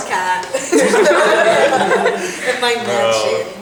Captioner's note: laughter